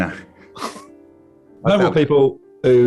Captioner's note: chuckling